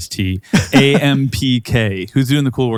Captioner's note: David laughing